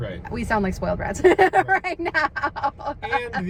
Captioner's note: laughs